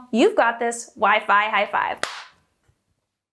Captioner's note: slaps hands